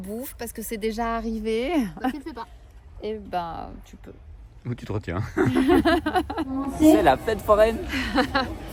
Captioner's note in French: rires